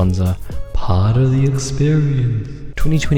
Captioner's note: echoes